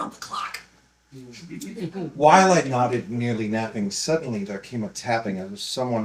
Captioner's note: laughter